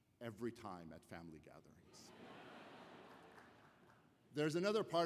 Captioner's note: laughter